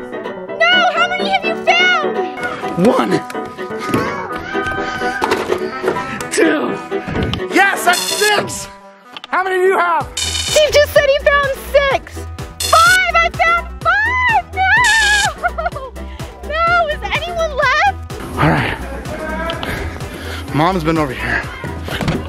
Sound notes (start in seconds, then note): 7.9 buzzer buzzes; 10.1 buzzer buzzes; 12.6 buzzer buzzes; 14.8 buzzer buzzes